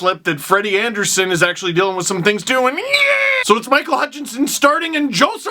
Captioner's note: fear noise